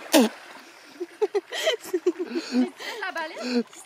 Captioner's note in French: rires